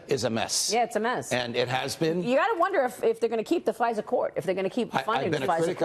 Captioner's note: laughter